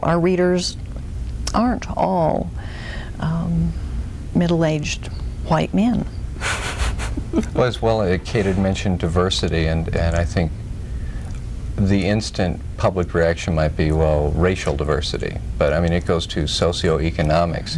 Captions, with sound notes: Our readers aren't all middle-aged white men. + (giggles) - Well, as well, as Kate had mentioned, diversity, and I think the instant public reaction might be racial diversity but I mean, it goes to socioeconomics.